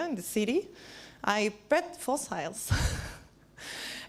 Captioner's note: laughs